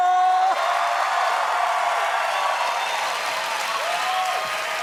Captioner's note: cheers and applause